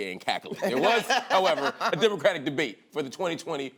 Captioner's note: laughter